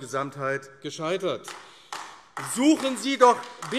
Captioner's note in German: Beifall AfD